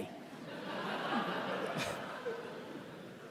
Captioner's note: laughing